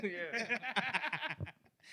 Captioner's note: laughing